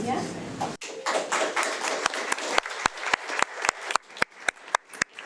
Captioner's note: audience applauding